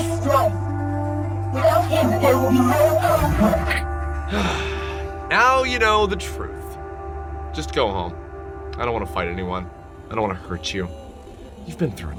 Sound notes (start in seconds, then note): 4.3 sigh